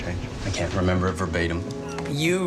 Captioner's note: voiceover